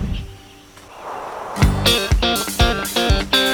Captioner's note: birds; windstorm